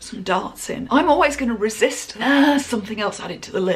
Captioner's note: groans